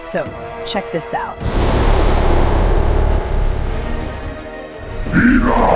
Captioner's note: roars